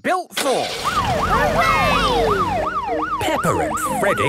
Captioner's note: siren